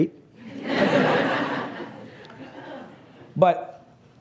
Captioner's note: laughs